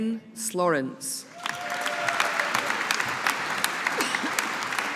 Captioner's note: audience applauding